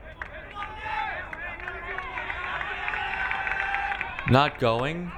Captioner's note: crowd cheering